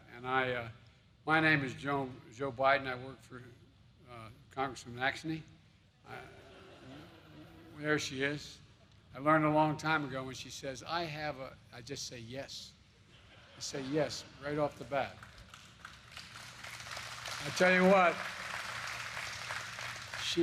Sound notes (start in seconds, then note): 6.2 laughter; 13.0 laughter; 14.6 applause